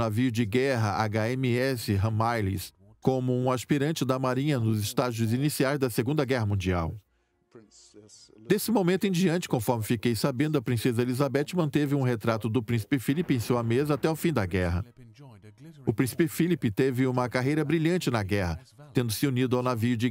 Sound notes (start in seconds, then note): 4.3 voiceover; 13.4 voiceover